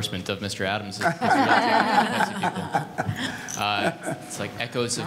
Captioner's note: panel laughing